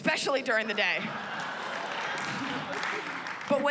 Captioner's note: laughter